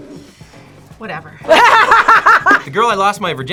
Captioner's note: laughs